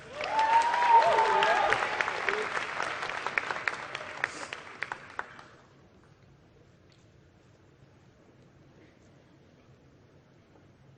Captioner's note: applause